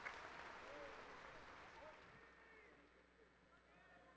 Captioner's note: cheers and Applause